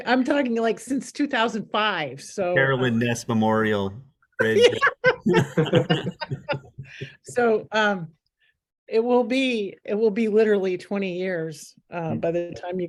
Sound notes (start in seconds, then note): 4.4 laughter